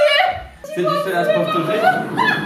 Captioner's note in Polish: śmiech